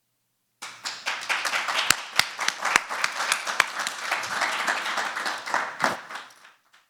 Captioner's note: applause